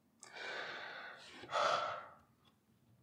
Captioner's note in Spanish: Suspiro